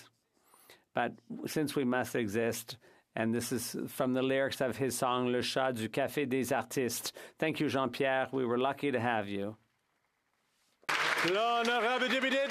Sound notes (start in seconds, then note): 9.6 speaking French